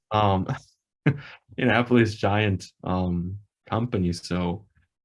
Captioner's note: laughs